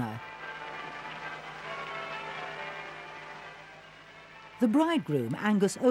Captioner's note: bells ringing